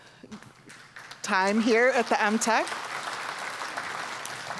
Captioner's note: applause